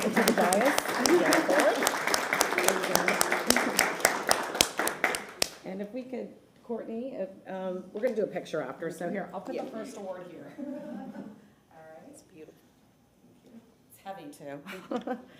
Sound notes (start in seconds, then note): 4.7 applause